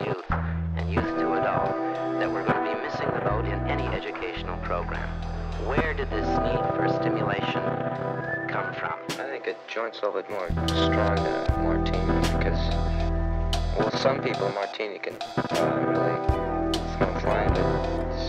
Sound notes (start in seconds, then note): 9.1 slurred